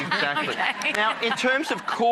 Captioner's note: audience laughter